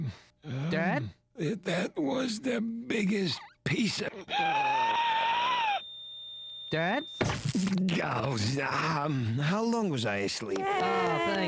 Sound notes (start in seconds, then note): 0.1 wheezing; 4.4 wheezing; 6.7 flat tone; 7.2 thud